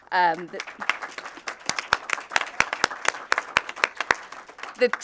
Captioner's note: audience applauding